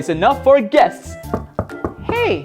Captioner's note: knocking on door